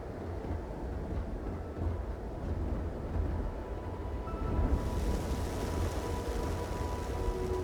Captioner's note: rumbling